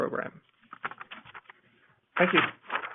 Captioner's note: paper rustling